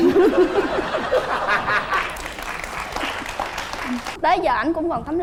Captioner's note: laughing and applause